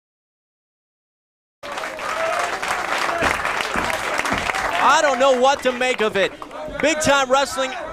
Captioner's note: fans clap